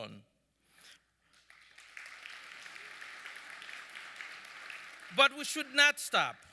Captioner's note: audience clapping